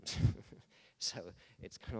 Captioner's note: laughing